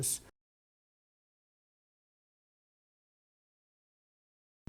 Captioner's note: silence